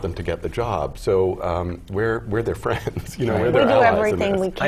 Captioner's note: laugh